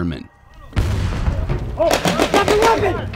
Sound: bomb exploding; gunshots banging

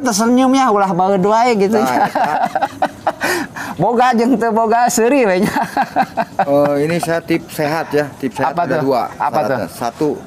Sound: laughs

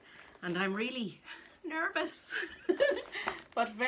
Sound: laughs

